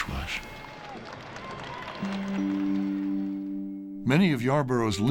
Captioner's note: crowd applauding